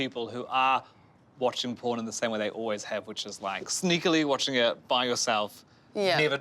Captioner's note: none